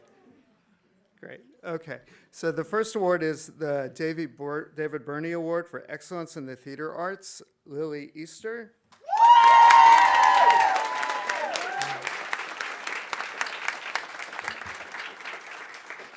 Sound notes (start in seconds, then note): 9.0 audience cheering; 9.0 audience applauding